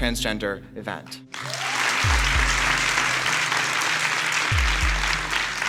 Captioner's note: audience claps